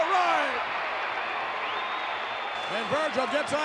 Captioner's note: audience cheering